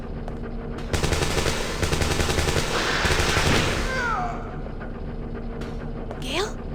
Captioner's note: gunfire and snarling